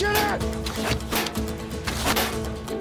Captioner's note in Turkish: Ok sesleri